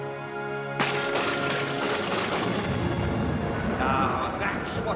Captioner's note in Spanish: la caída de rayos; trueno aplaude